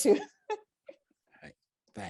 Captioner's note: laughs